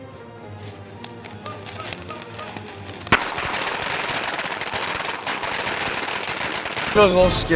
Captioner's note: explosions